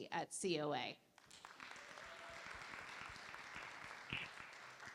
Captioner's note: applause